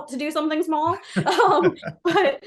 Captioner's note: laughing